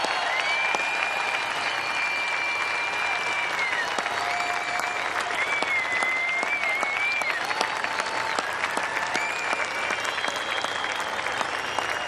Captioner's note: cheers and applause